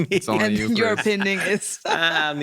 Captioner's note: laughing